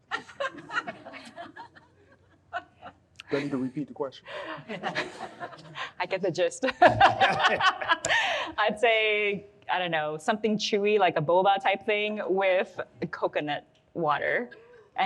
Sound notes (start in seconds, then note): 0.1 audience laughs; 4.4 audience laughs; 6.8 all laugh